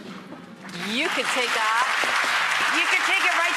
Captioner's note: applauding